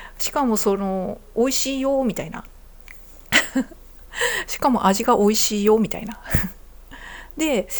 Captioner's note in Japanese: 笑い